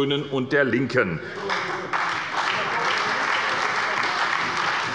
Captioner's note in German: Beifall bei der SPD